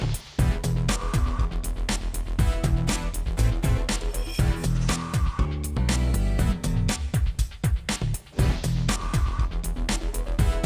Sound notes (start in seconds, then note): none